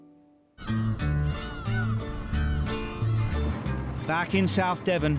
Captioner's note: seagulls squawking; upbeat music